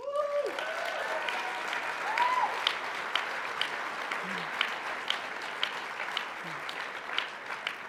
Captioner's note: cheers and applause